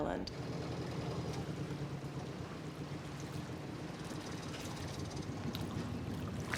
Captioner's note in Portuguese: motor sobre ruídos de água em movimento